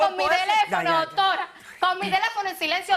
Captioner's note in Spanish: ambos gritan